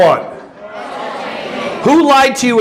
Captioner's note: audience answering